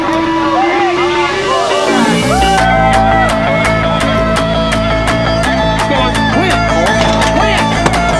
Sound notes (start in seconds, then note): 2.2 audience cheering